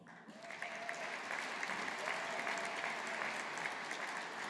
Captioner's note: audience applauding